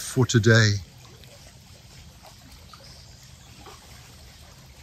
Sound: water lapping

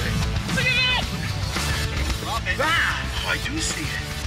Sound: yelling

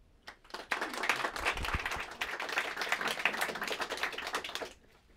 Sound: applause

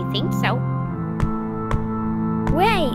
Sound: knock knock knock

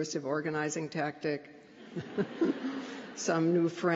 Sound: laughter

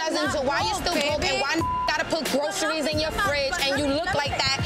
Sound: beep

